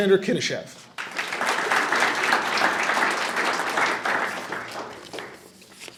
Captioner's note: audience applauding